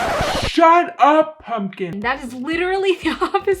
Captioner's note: record scratch